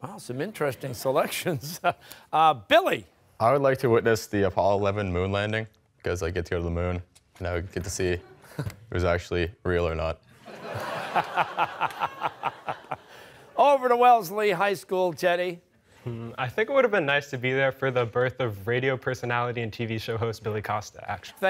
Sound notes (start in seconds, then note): 10.3 laughter